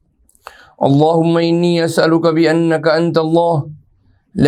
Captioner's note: arabic